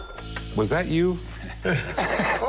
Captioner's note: laughter